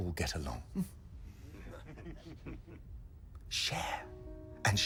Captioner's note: men chuckling